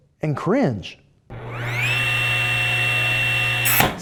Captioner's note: table saw buzzing